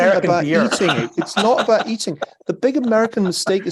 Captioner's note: laugh